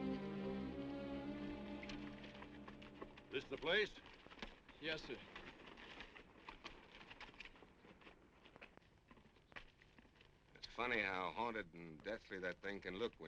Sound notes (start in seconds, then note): 5.7 horse hooves clopping